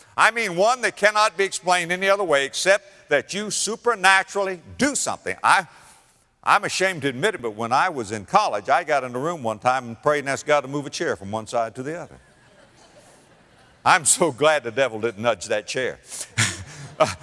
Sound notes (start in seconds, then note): 12.2 audience laughter; 16.3 audience laughter